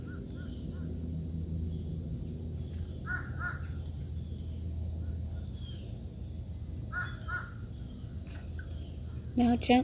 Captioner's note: nature Sounds